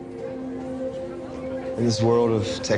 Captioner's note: indistinct chatter